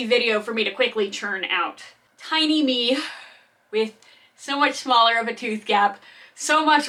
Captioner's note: sigh